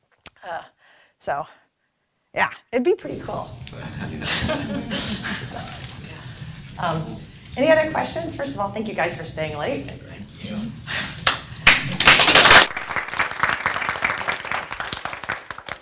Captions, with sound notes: So, yeah. It'd be pretty cool. (laughing) - Any other questions? First of all, thank you guys for staying late. (applause)